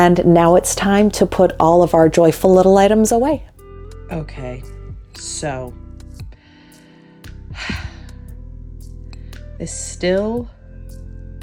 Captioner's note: sighs